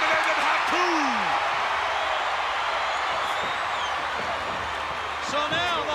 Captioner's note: applause